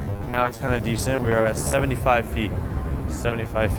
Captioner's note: crackles